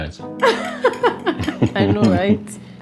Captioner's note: laughing